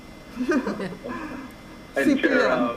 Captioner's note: group laughing